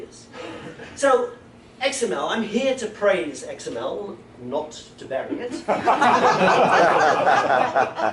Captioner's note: laughter